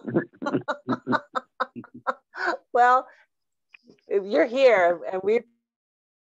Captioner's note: laughing